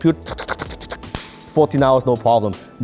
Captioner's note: clicks tongue rapidly